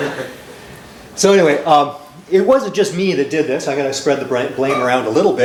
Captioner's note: laughter